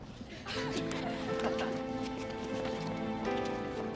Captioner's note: laughing